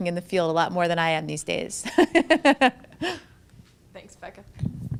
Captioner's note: laughs